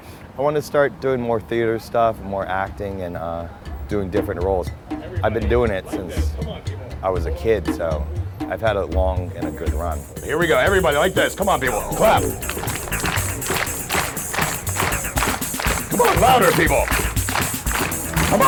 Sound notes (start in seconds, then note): 13.3 audience clapping